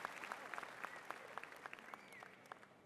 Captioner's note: applause